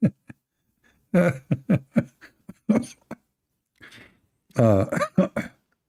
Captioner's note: Ketawa